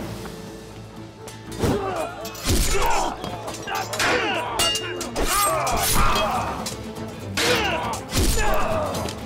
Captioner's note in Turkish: Dövüş sesleri; Kılıç sesleri